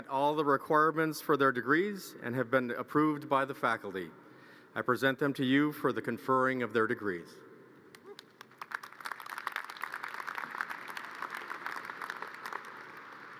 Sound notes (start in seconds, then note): 8.1 audience cheers and applause